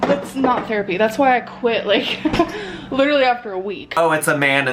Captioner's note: laughs